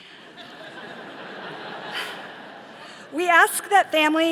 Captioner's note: all laughing